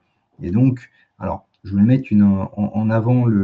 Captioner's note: raclement de gorge